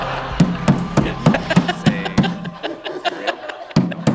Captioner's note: all laughs; table banging